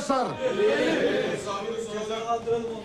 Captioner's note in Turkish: Hep bir ağızdan